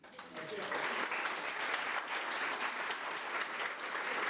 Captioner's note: crowd applause